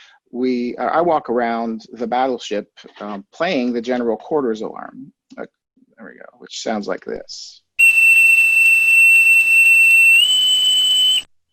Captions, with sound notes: I walk around the Battleship, playing the general quarters alarm. There we go, which sounds like this. (alarm beeps)